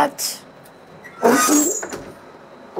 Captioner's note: squeaking